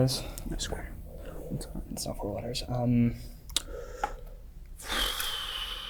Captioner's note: exhales